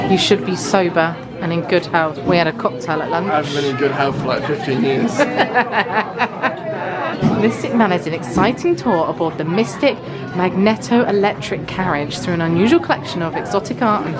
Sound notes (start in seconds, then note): 5.2 laughs